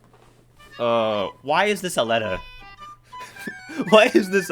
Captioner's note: groan